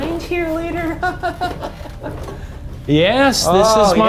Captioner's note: laughs nervously